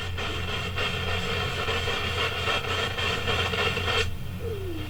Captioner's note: radio static hisses